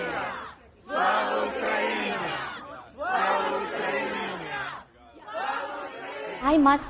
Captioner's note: protest chanting